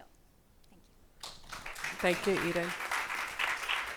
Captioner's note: audience applauding